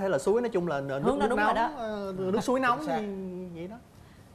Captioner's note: mockingly